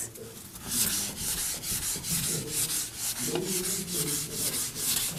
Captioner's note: eraser wiping board